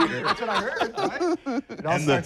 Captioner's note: laughing